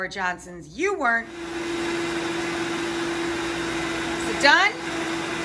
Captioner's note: blender whirs